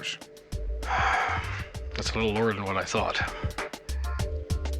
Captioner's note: sighs